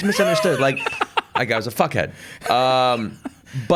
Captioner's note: laughs